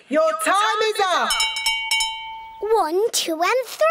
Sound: rings bell

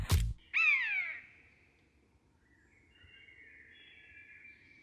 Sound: bird cawing; birds chirping

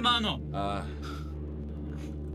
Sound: sighs

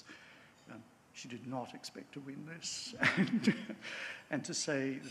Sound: chuckles

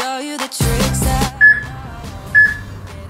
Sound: peep

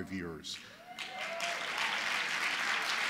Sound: applause

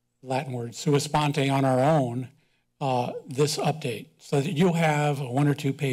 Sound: foreign language

